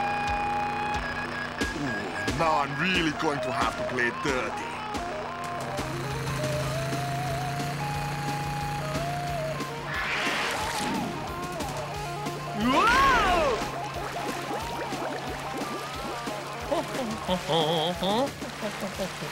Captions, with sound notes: Ooh, now I'm really going to have to play dirty. Whoa! (HUMMING)